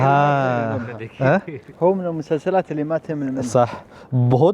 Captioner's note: Arabic